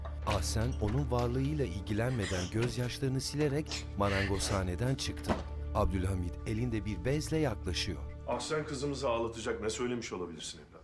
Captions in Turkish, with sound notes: (Kapı açılma sesi) (Kapı açılma sesi) (Ağlama sesi) (Kapı kapanma sesi) Ahsen kızımızı ağlatacak ne söylemiş olabilirsin evladım?